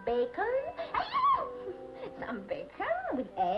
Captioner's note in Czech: Píská